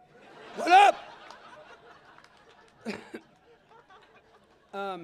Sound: laughter

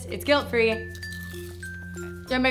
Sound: chewing

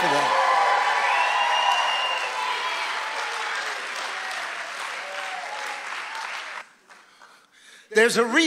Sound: audience cheering and applauding

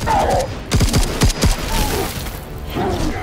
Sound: creature roaring; guns firing; creature roaring

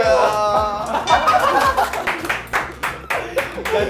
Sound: bursts out laughing

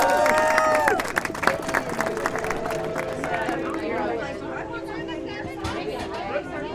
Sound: cheers and applause; indistinct chatter

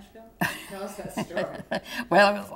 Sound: laughter

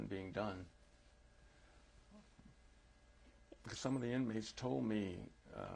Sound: pauses for 3 seconds

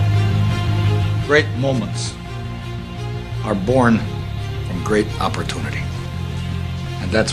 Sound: voiceover

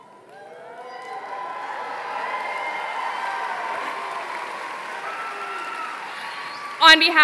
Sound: applause

